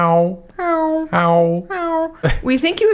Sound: meowing

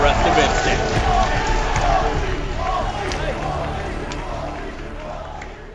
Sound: Crowd chanting "Walshy"

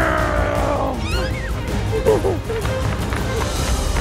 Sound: laughing

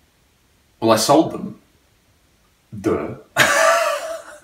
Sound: laughs

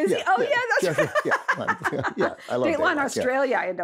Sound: both laugh

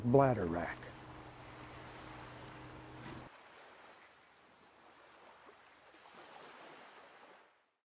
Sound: waves crashing

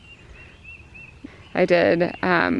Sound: birds calling

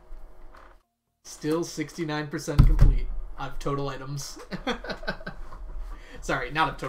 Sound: laughs

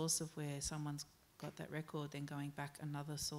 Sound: none

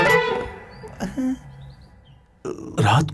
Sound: birds chirping

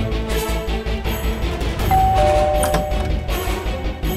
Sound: doorbell ringing

